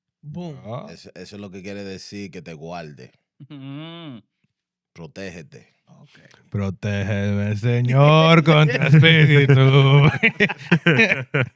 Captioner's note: laughing; speaking In Foreign Language